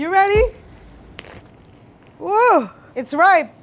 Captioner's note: jackfruit rips